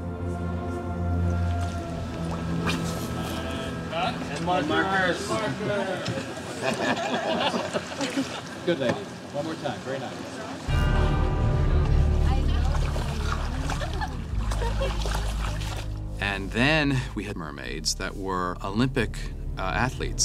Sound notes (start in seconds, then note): 6.5 all chuckling; 13.5 women chattering, laughing